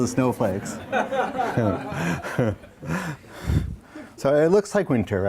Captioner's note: audience laughs